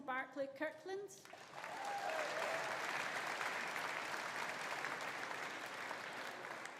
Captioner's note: audience applauding; audience cheering